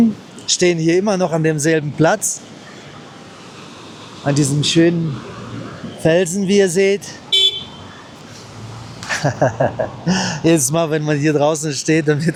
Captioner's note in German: gelächter